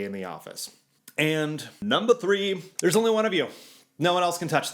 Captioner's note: clicking